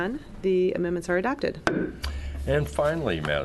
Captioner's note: gavel bang